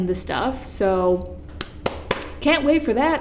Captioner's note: motivational clap